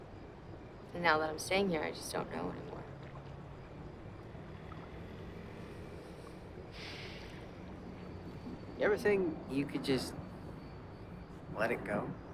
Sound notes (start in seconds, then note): 6.7 sigh